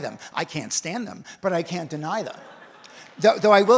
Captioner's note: audience laughs